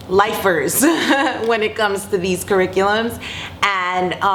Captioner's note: laughing